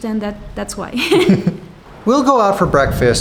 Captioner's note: laughing